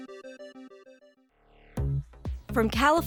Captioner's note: silence